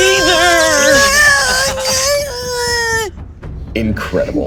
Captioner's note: whining